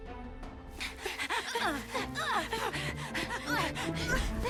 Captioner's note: Jessa breaths heavily; Mischa breaths heavily; suspense music